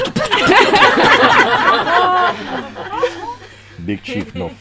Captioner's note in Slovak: Smiech